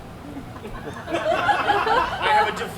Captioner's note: audience laughs